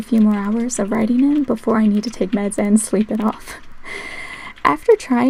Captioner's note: laugh